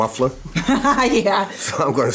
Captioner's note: laughing